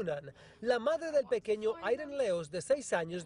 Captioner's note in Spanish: habla en ingés